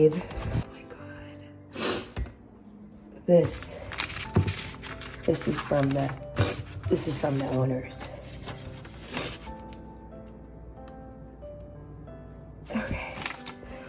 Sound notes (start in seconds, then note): 1.8 sniffs; 6.3 sniffs; 10.1 gentle piano music continues